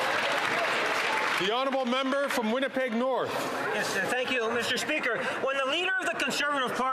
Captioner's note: some Applause